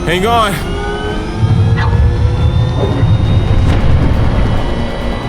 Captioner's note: sub whirring